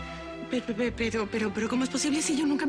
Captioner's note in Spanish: Tartamudeo